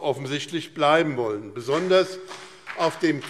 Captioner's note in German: Beifall BÜNDNIS 90/DIE GRÜNEN und CDU